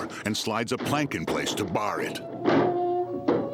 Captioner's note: door slamming; sorrowful music